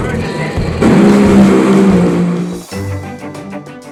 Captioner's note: engines roaring; light upbeat music